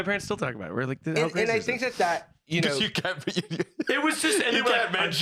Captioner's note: laughs